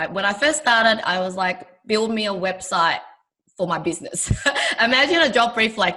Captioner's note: laughing